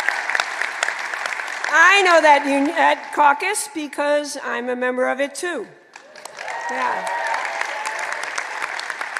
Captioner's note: applause